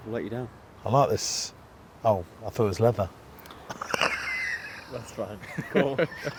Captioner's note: laughs